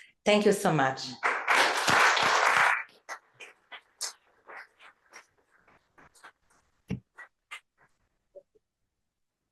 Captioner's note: applause